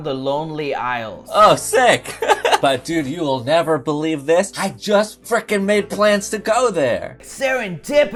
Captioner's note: laughs